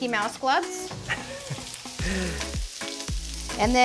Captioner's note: chuckles